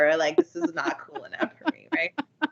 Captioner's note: giggling